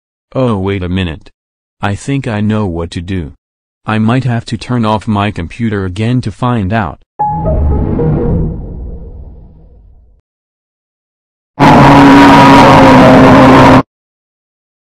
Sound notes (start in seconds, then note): 7.2 Lowest Windows XP shutdown sound